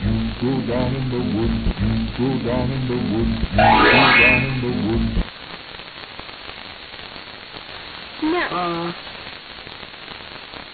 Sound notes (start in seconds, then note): 3.6 ring